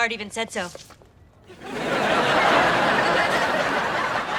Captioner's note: audience laughing